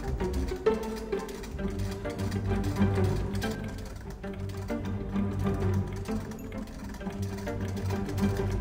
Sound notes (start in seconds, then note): 1.6 antique sewing machine clickity clack